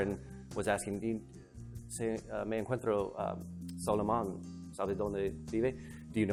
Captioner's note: speaks in foreign language